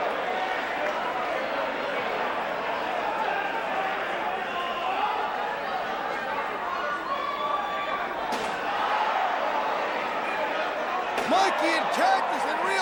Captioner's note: crowd chatter